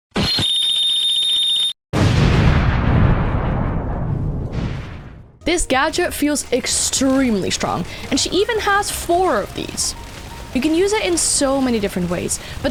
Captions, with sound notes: [Beeps] [Explosion sound] This gadget feels extremely strong and she even has four of these you can use it in so many different ways